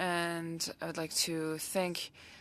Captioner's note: speaking French